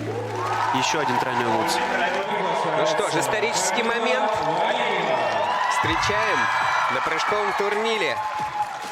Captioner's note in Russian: ликование